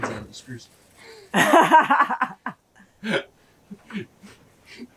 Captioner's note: laughter